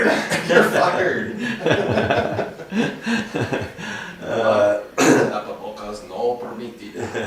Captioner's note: La risa